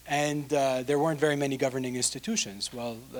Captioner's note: none